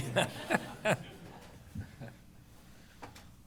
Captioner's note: laughter